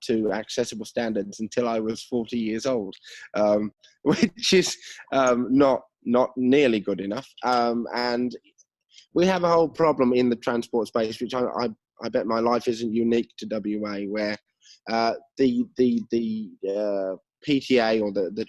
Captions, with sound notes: accessible standards until I was 40 years old, (laughs) which is not nearly good enough. And we have a whole problem in the transport space, which I'd bet my life isn't unique to WA where the PTA or the transport authorities at the